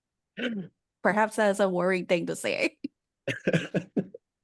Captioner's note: laughs